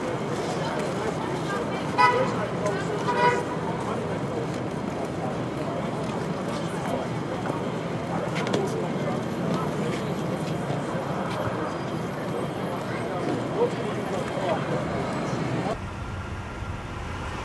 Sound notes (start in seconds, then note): 3.0 car honks; 6.5 crowd chatters